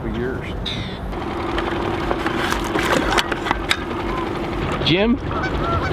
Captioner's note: boat engine whirring